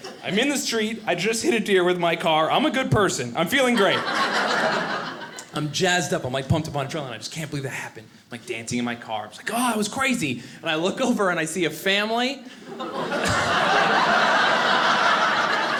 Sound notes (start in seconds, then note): 3.6 audience laughing; 12.6 audience laughing